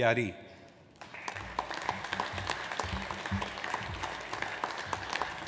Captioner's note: audience applauds